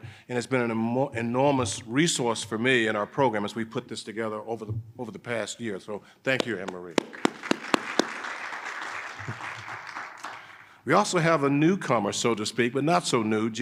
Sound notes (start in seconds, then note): 6.4 audience applauding